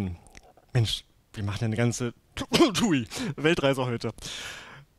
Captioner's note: cough